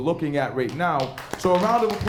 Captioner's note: applause